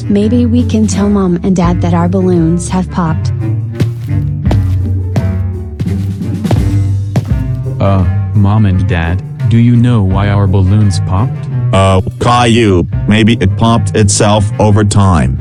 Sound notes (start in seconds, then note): 3.7 footsteps